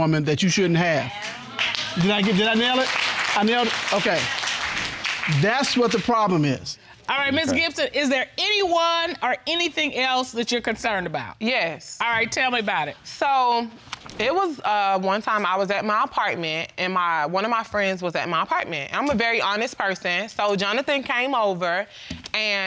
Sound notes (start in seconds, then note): 1.0 applause